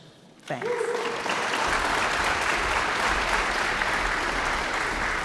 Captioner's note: audience applauds